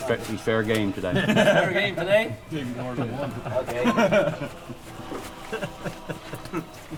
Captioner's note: laughing and talking